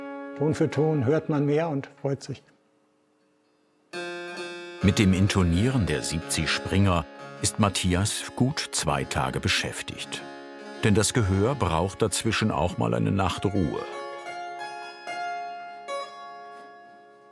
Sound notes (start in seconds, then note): 14.0 soft, bright sounds